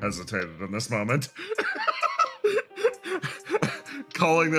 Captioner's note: laugh